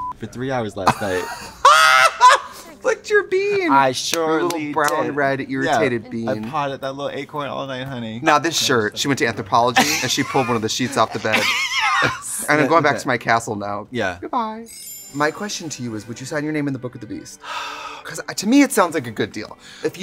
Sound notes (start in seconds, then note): 0.0 beep; 0.8 laughing; 11.6 laughing; 17.4 noisily exhaling